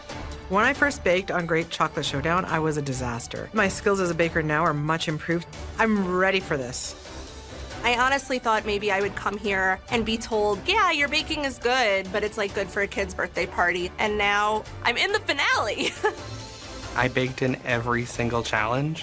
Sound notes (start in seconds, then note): 15.7 chuckles